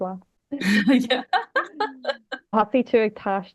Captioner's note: laughs